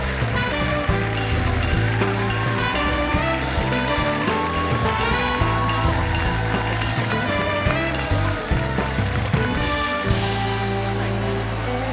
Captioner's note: cheering and applause